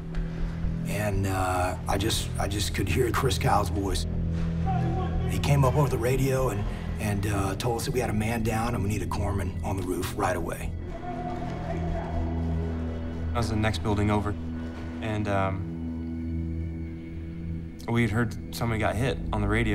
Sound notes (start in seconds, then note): 3.4 shouting